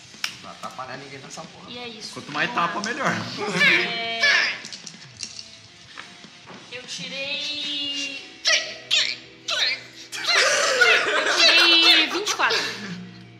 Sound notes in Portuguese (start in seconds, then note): 8.5 imitando a Carina; 10.1 risadas